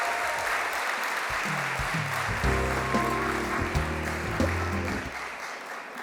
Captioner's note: applause